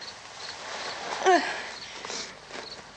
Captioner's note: barbra groans